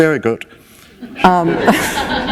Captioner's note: laughter